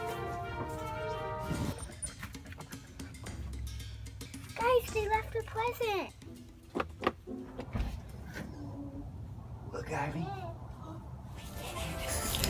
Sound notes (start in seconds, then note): 7.1 rattling